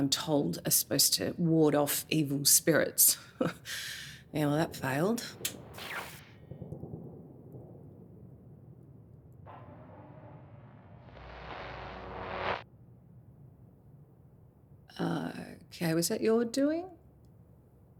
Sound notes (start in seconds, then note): 11.1 generator noise